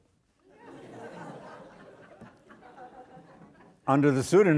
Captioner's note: audience laughing